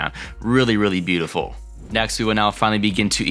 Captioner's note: air whooshing